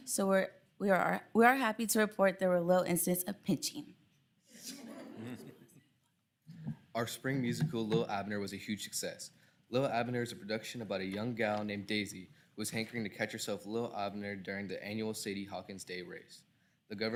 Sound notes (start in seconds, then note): 4.6 people chuckling